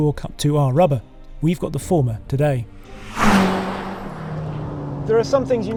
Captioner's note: engine rumbles